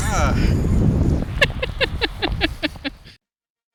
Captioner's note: laughter